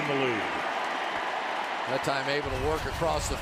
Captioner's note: cheering